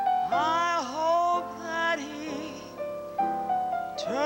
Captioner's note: none